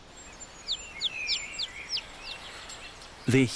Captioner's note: chirping